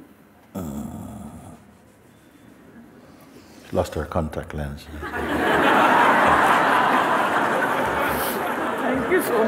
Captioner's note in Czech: smích